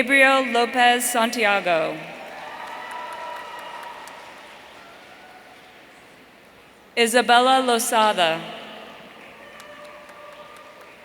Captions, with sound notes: Gabriel Lopez Santiago. (audience cheering) Isabella Losada.